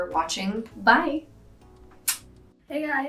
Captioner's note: lip smacking